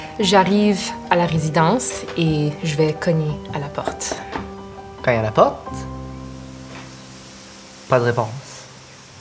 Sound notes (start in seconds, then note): 3.8 three knocks